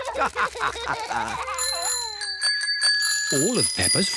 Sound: all laugh; bells ring

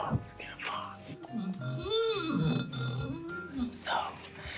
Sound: glass squeaking

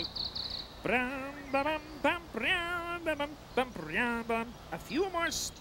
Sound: humming

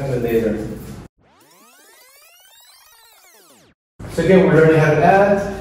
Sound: fast-forwarding whirs

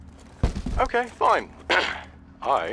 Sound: clears throat

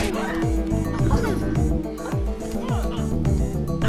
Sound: thudding; women grunting

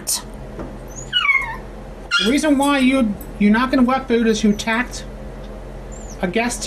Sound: Ella howls

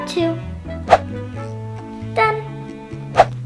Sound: air whooshing; air whooshing

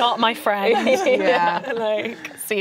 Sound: laughing

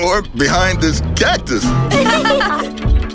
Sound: laughing

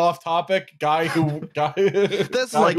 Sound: laughs

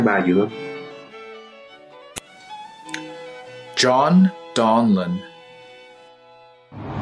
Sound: non-english speech

